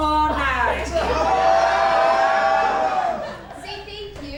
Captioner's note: the men yell and laugh together